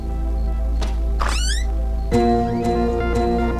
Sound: door creaks

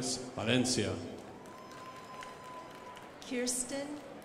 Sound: crowd applauding

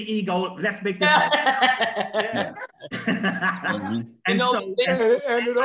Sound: laughter

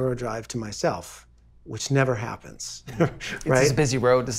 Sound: laughing

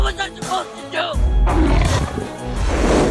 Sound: sabre-toothed cat snarls

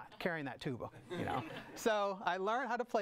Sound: audience laughs

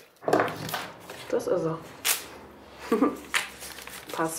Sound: she laughs softly

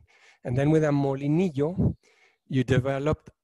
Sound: speaking in foreign language

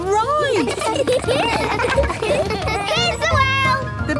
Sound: laughter

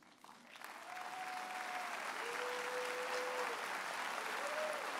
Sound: audience applauds and cheers

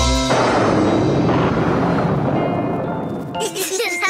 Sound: thunder crash; giggling

